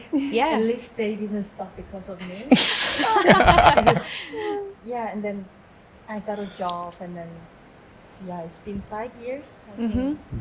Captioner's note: laughing